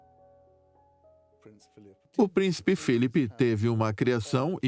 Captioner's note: voiceover